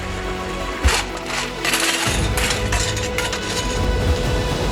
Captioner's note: gravel crunching